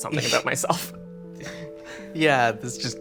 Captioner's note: chuckles